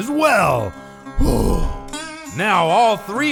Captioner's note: exhale